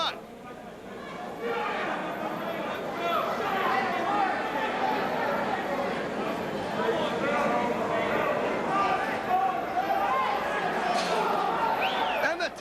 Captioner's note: crowd chatter